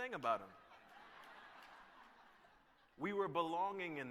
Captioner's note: laughter